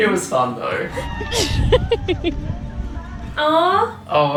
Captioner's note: laughter